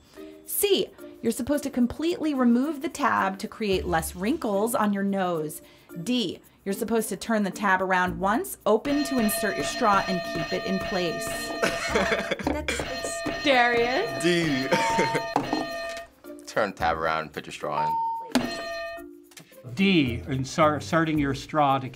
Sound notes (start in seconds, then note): 8.8 hitting bell; 11.6 laughs; 14.4 ding; 14.6 chuckles; 17.8 hitting bell